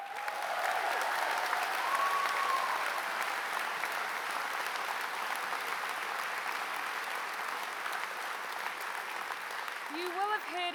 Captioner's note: applause